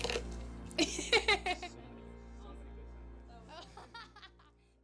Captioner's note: laughs